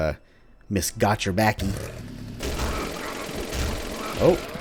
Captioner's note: engine roars, Got-Your-Backie rampaging